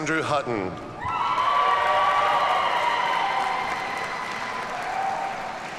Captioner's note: audience cheers and applauds